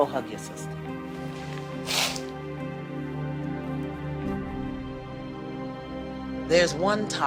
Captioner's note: sniffles